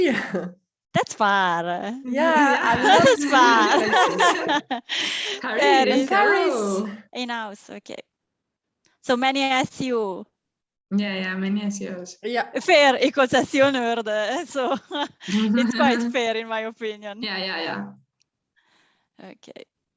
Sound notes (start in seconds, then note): 4.1 laughter; 12.0 foreign language; 15.1 laughs